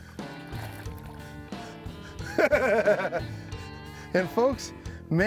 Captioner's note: chuckling